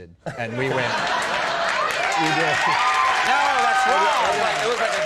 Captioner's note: audience laughing and cheering